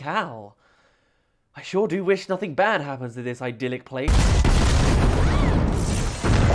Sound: explodes

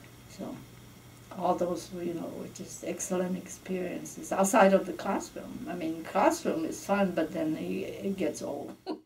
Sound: giggles

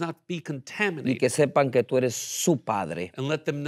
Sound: speaking in Spanish

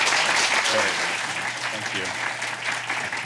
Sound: applause

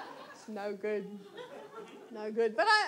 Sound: audience laughs

